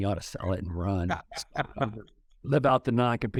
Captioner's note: chuckles